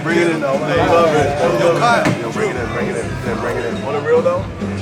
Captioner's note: group chattering